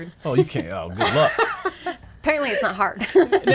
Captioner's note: woman laughs